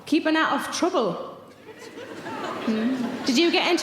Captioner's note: audience laughing